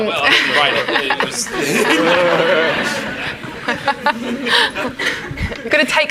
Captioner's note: everyone laughing